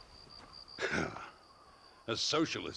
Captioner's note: laugh